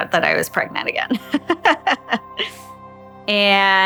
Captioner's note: she laughs